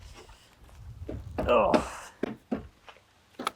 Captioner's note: fist pounding